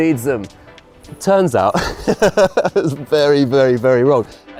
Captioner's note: laughing